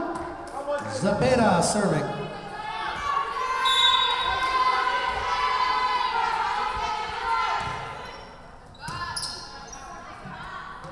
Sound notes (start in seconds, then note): 3.6 whistle blowing